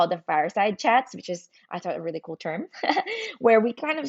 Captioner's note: laughs